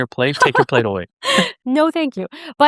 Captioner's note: laughing